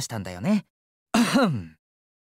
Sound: clears throat

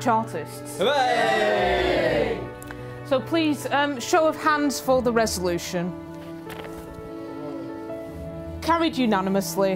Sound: cheers

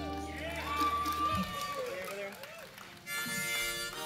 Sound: clapping

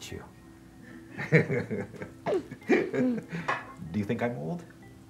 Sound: laughing

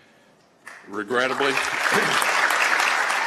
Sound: applause

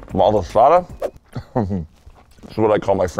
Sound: laughs

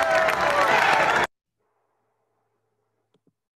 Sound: applause

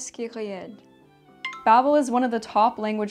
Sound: speaking French; bell tone

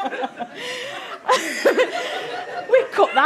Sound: giggling continues all round

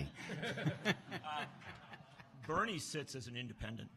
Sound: laughs and groans

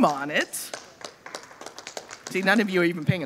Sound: audience applauding

